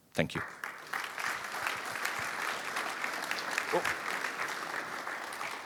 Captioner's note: applause